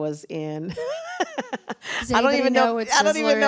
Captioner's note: laughs